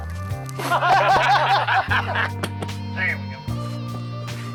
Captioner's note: lalaugughthterer